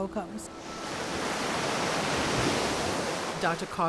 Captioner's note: waves crashing